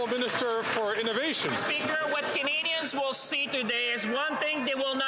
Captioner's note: some Applause